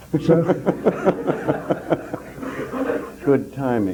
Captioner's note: ripples of laughter in room